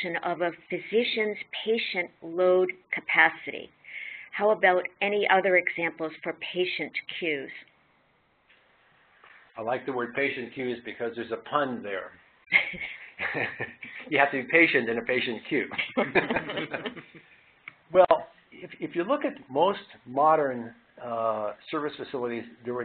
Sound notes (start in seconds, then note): 12.5 laughing; 15.7 laughing